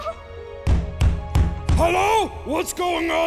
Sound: banging on the door

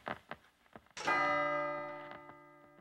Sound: bells ring

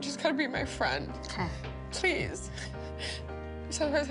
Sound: sobs

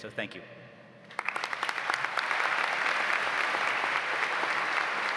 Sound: audience applauds

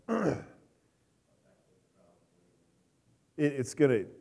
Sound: clears throat

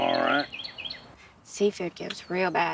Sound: bird chirping

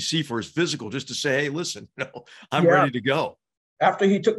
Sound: laugh

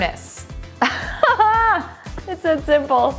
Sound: laughs

